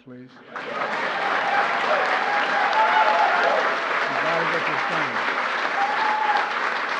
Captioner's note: applause